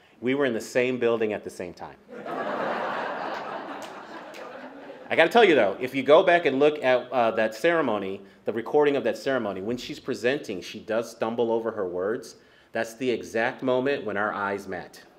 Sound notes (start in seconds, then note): 2.1 laughter